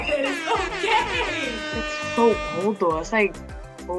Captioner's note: party horn blares